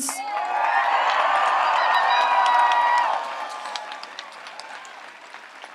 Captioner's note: audience applauds and cheers